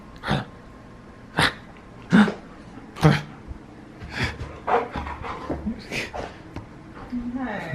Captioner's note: Playful grunts towards Harlow